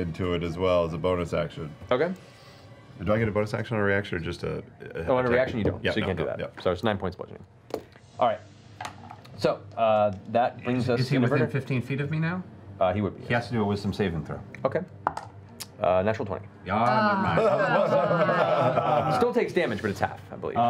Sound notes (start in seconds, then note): 15.9 groaning